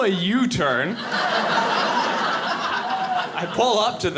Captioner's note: audience laughing